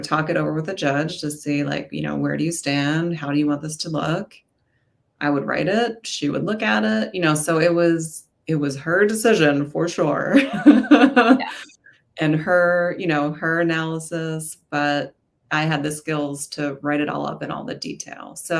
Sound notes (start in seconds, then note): 10.5 laughs